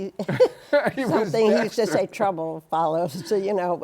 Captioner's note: laughter